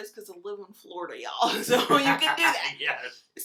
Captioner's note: laughs